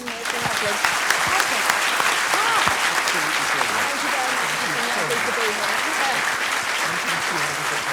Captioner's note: applause